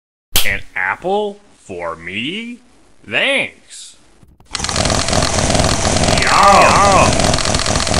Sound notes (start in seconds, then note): 4.6 Baldi Eating Like A Maniac